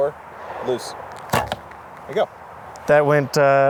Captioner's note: arrow thumps